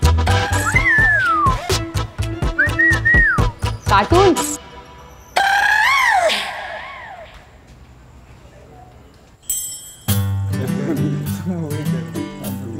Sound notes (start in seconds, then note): 0.7 Whistles; 10.6 Students chattering